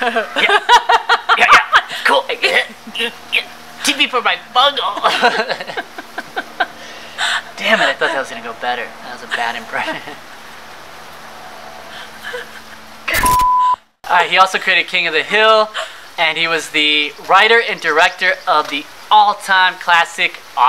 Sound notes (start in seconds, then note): 0.0 imitating laugh; 4.8 laughing